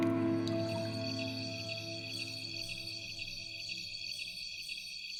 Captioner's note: wildlife chirping